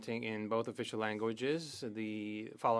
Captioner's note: speaking French